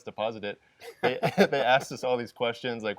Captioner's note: laughter